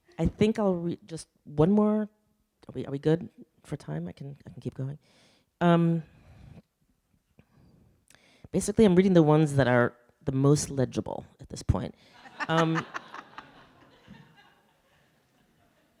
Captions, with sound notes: I think I'll read just one more. Are we good for time? I can keep going. Basically I'm reading the ones that are the most legible at this point. (audience laughing)